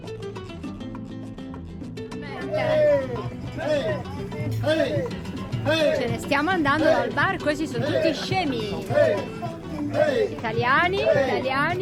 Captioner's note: laughter